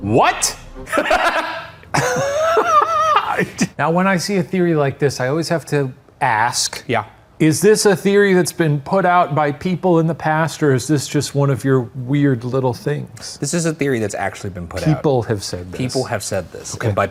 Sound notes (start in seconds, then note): 0.8 laughs